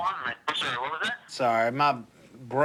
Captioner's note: on phone